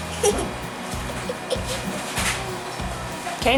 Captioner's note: laughs